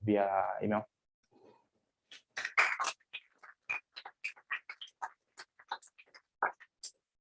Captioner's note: applause